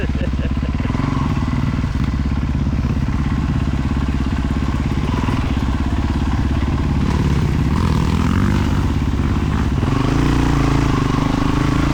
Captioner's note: engine revving